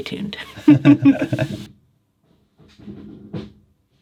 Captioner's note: both laughs